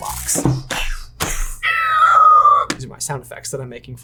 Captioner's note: imitating flying sounds